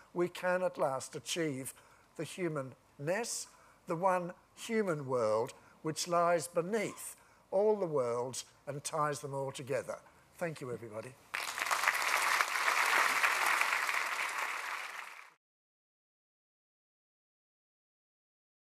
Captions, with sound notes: we can at last achieve the humanness, the one human world which lies beneath all the worlds and ties them all together. Thank you, everybody. [APPLAUSE]